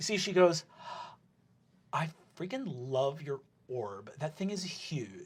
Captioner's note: gasps